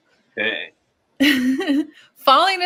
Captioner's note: laughs